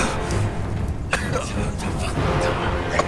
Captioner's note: dramatic orchestral music; David gagging